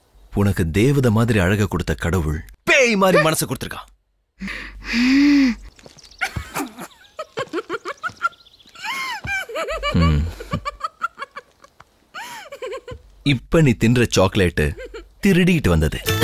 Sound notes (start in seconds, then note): 6.2 laughs